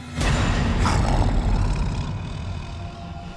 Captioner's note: snarling